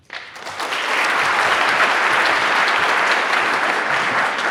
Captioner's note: audience applauds